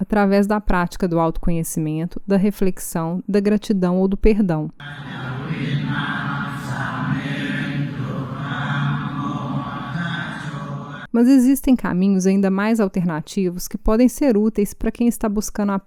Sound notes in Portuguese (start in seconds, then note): 4.8 sons de oração